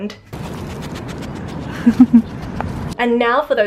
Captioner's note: skunk sniffing sounds, giggling